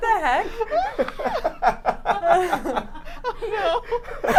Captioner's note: everyone laughing